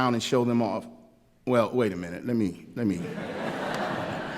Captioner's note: laughter